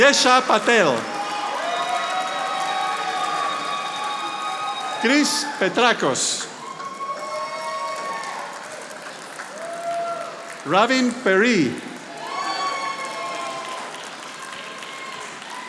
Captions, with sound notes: Jesha Patel. (audience applauding) Chris Petracos. (audience applauding) Robin Peri. (audience applauding)